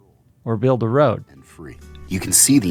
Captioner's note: soundbite of archived recording